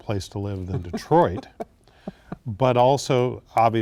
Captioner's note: laughter